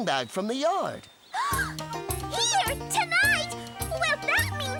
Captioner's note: gasp!